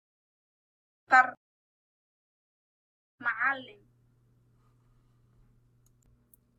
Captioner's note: speaking in foreign language